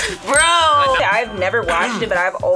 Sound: bell dings

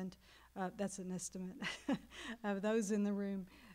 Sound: laughing

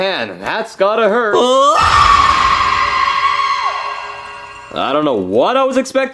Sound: Luigi screams out loud

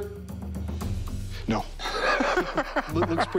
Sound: laughs

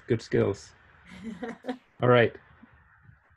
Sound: chuckling

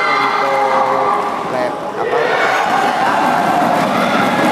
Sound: applause

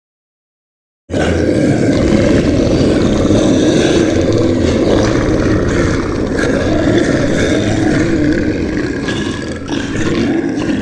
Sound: sound of monster

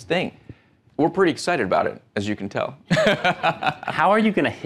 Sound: laughing

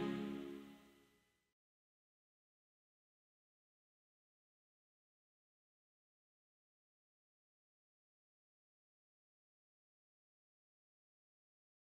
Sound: silence

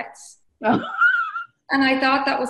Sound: laughs

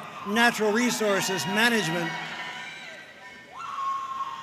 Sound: audience cheering and applauding

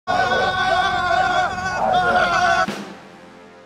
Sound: recruits screaming

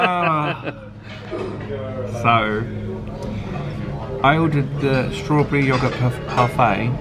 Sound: laughs; sighs

